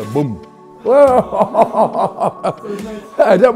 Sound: laughing

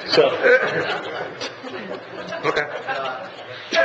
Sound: laughs

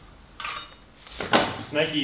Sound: rattling

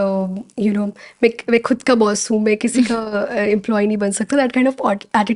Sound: speakin in Hindi

